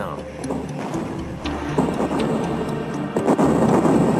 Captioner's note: guns firing; bombs exploding